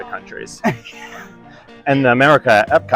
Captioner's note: laughing